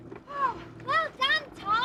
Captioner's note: Barrable sighs